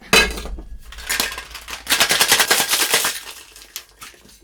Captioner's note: ice shaking